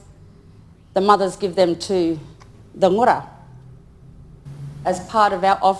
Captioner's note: speaks in foreign language